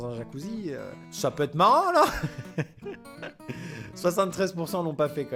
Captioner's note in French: rire